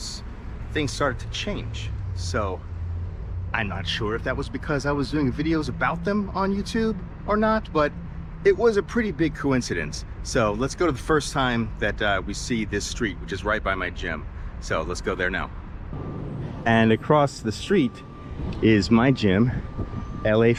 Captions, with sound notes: things started to change. So I'm not sure if that was because I was doing videos about them on YouTube or not. But it was a pretty big coincidence. So let's go to the first time that we see this street which is right by my gym. So let's go there now. [street noise] And across the street is my gym LA.